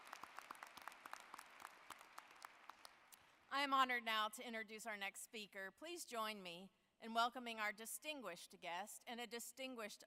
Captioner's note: applause